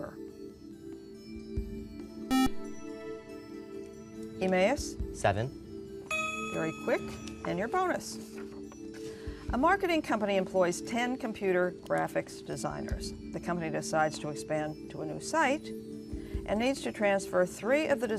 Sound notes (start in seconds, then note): 0.7 buzzer